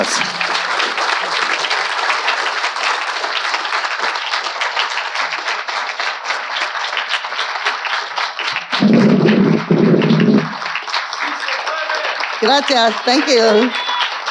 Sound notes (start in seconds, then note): 0.2 audience applauding; 8.6 microphone rustling